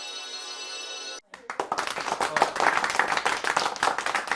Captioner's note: clapping